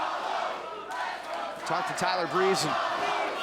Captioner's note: crowd chatter